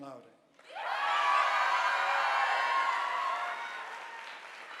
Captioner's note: audience applauding